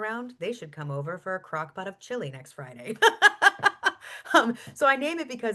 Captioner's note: laughs